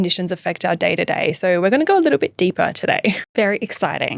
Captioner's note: laughing